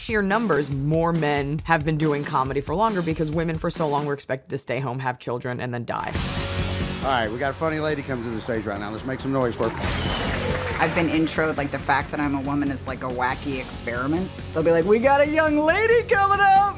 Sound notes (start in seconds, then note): 7.9 applause